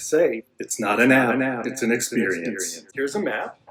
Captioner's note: echo effect